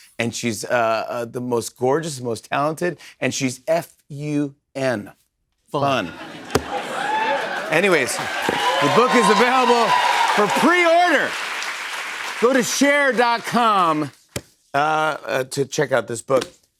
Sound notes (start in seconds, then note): 6.0 laughter; 11.5 cheers and applause